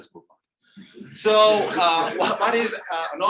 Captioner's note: audience laughing